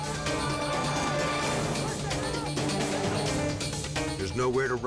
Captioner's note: dramatic music continues; group shouting